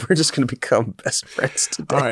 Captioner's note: laughing